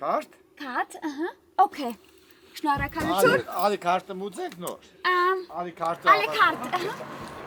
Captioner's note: in Armenian; speaking Armenian